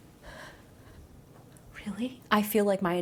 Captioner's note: gasping